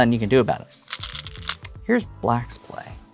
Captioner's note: stones rattling